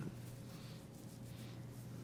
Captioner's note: wiping nose